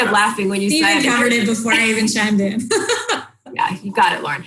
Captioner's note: laughs